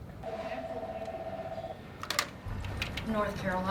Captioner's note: phone ringing